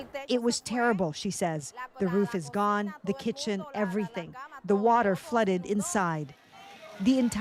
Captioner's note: speaking alternate language